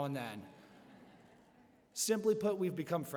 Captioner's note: laughter